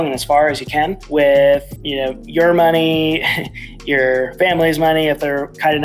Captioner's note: chuckles